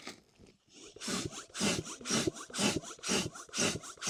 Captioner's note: pump sound - inflatable tent setup